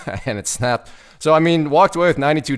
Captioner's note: laughing